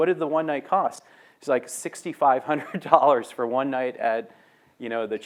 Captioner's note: laughs